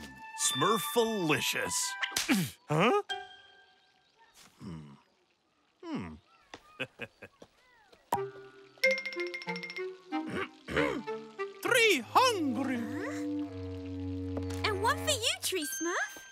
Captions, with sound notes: Smurfilicious. Huh? Hmm. Mm. [chuckles] [clearing throat] Tree hungry. Huh. And what for you Tree Smurf?